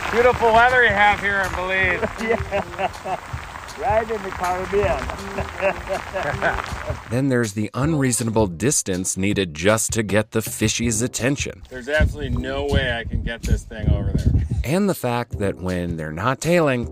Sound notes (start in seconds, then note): 2.1 laughs